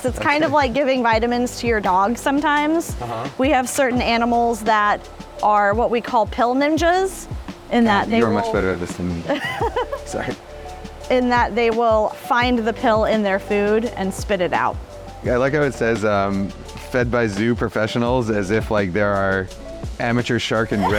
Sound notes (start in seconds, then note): 9.2 laughter